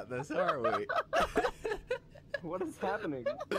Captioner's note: laughter continues